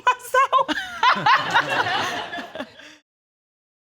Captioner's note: all laughing